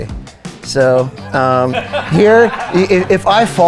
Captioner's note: guys laughing